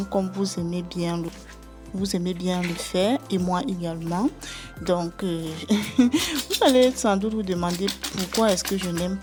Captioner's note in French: rires